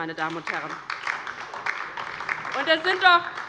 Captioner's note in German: Beifall DIE LINKE